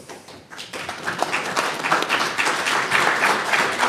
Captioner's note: audience applauds